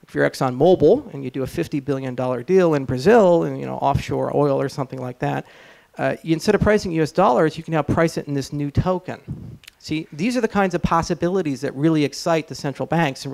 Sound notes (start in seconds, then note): none